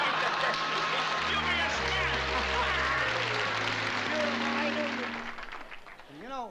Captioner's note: applause